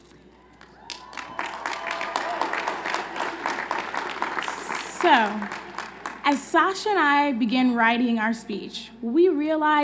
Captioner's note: applause